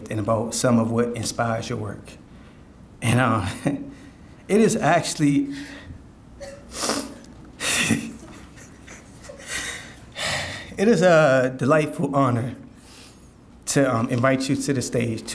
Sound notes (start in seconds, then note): 6.4 sniffles; 7.6 laughing